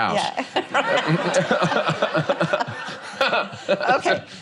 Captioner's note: laughter